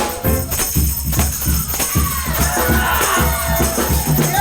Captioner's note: exciting jazz music continues; audience cheering